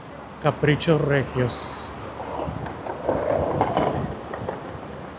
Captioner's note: Spanish